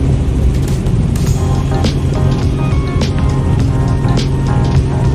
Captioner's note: helicopter whirring